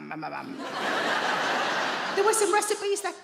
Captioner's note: audience laughing